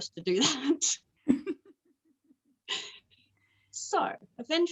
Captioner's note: both chuckle